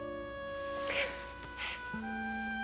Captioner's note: valerie sighs